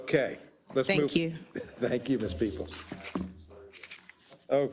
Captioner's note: laugh